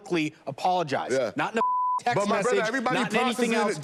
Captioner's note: beep